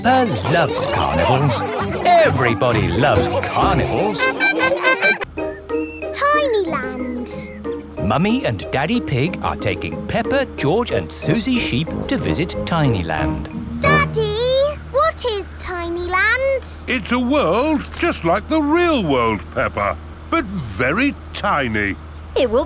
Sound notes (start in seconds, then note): 0.0 both giggling; 4.5 laughing